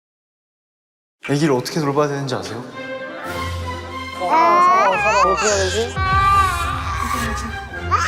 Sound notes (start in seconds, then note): 4.2 crying baby, panicking